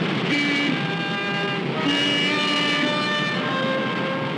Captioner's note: car horns honking